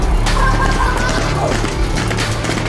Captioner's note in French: Bruit des crampons sur le sol